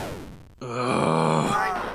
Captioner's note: grunts in frustration